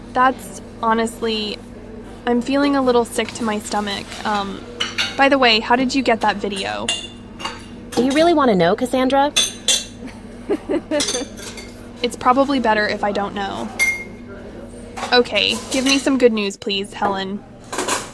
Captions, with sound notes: That's... honestly... I'm feeling a little sick to my stomach... Umm... by the way... how did you get that video? Do you really want to know, Cassandra? [chuckles] It's probably better if I don't know. Okay, give me some good news, please, HELEN.